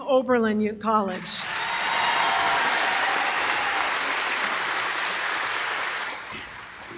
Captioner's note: applause